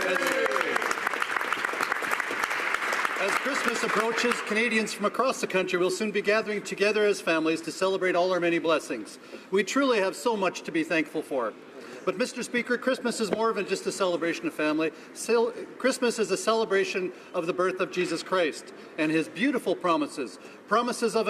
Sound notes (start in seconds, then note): 4.6 some Applause